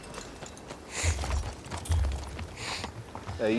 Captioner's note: sniffing